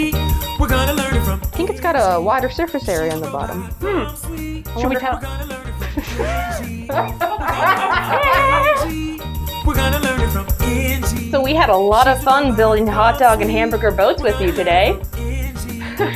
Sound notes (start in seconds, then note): 6.7 laugh